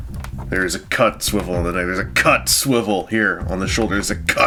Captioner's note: grunty mumbling